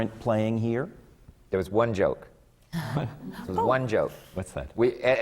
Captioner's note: laughs